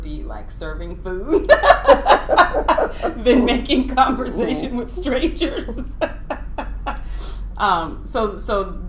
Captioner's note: laughing